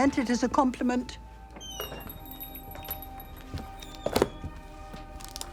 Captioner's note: door creaks open, shuts